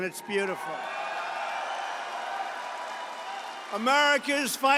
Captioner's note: applause